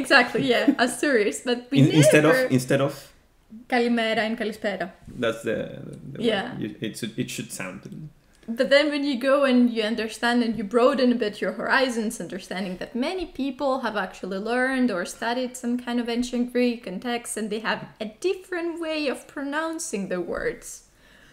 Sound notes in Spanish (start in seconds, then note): 4.5 con acento griego